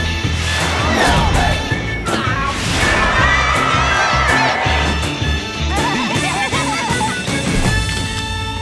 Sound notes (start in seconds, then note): 2.6 crowd cheering; 5.5 laughing